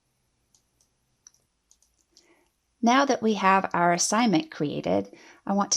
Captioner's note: clicking